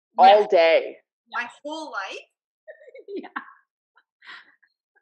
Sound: laughs

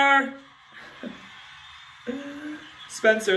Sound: giggles

